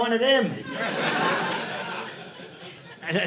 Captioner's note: audience laughing